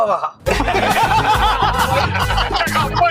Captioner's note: laughs